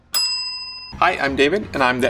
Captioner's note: bell dings